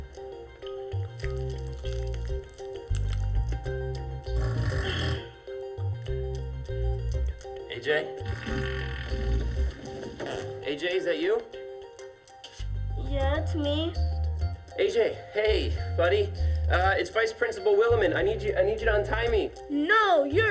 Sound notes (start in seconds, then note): 4.3 farting sound; 8.3 student farts